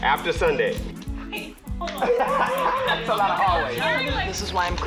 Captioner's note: laughs